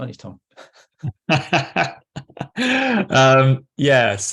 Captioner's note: laughter